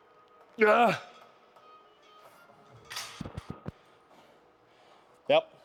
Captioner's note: grunts